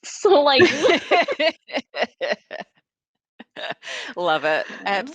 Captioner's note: all laughing